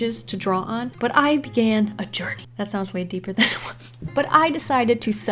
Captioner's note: laughs